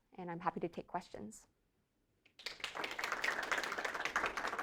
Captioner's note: applause